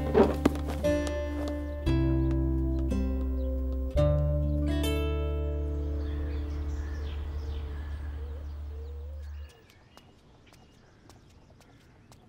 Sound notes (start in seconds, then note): 9.4 Footsteps